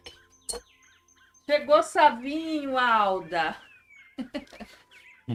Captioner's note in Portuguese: risadas